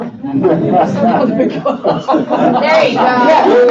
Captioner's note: laughing